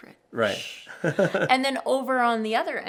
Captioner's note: laughing